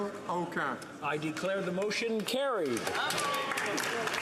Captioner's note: speaking French